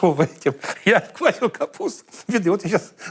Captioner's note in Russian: смеется